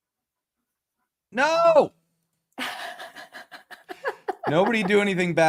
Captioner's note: laughter